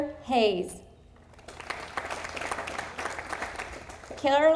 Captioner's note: audience applauding